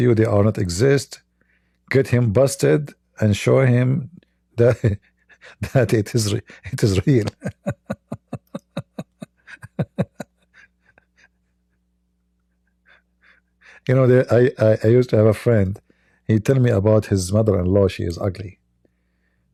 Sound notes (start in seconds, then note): 6.5 Ketawa